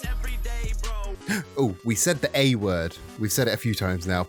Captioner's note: gasp